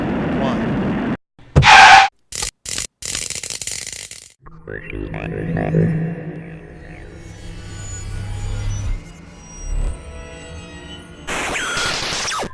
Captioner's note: sound Effects